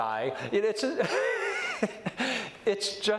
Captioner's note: laughs